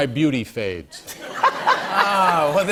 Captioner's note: laughter